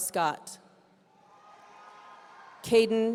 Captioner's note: audience cheering